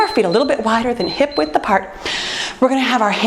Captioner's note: timer beeps